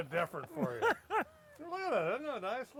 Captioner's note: laughs